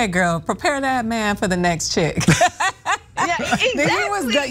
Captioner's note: laugh